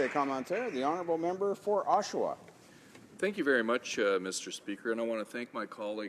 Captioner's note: speaking french